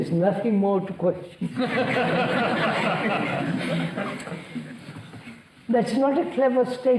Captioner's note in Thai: หัวเราะ